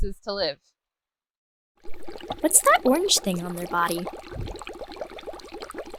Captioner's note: kids voice